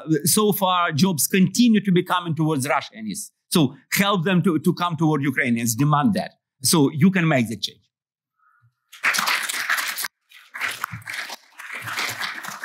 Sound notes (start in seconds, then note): 8.9 applause